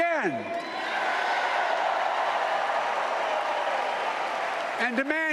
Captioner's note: applause